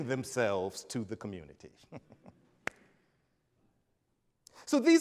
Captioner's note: chuckles